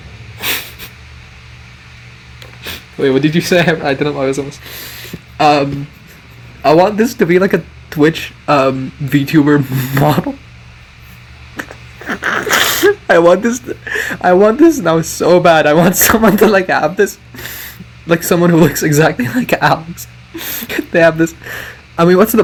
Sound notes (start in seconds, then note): 0.4 snicker; 11.5 giggling; 12.0 snort